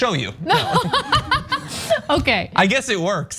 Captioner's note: laugh